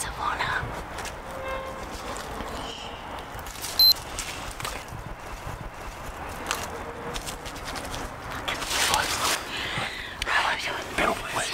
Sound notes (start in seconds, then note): 1.9 gate creaking; 3.8 phone beeping; 10.2 rustling